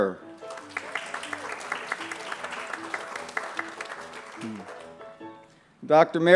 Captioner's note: applause